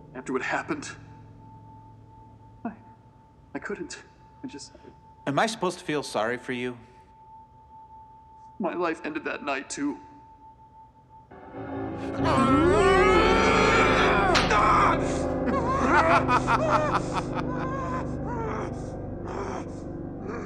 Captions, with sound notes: After what happened... I-I couldn't. I just- Am I supposed to feel sorry for you? My life ended that night too. (screams) (gun hammer clicks) (laughs)